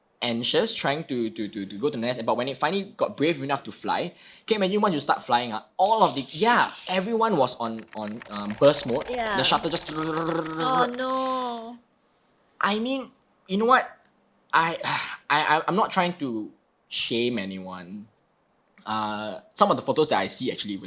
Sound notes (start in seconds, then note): 7.6 shutter noises; 10.9 mimicking shutter noise